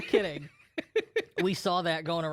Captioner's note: laughs